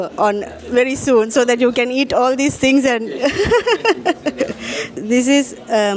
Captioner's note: laugh